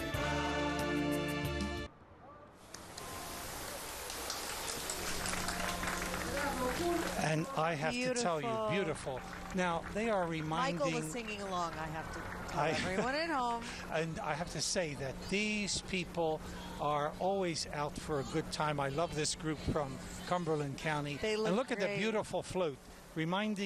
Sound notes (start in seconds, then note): 6.6 cheers and applause